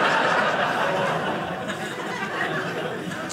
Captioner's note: audience laughing